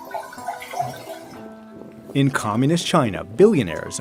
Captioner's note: wine splashing